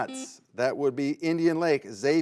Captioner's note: buzzer beeps